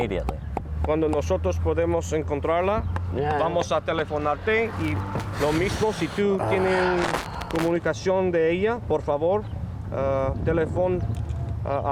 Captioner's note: speaking spanish